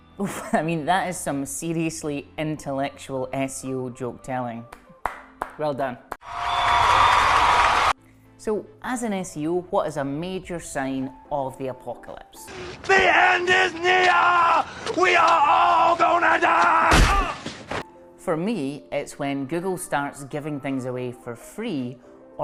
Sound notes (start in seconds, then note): 5.0 clapping; 6.2 crowd applauding